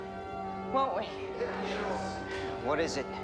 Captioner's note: crowd agrees